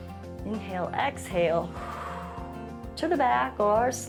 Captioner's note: exhales